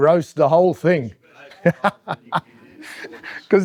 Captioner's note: laughing